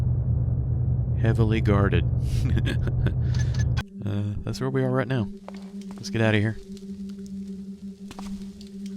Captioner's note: laughs